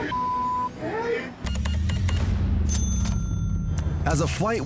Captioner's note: cash register beeps, dings